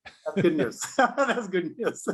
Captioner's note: both laughing